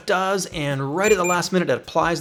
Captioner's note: beeping